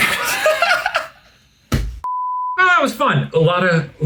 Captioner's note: laugh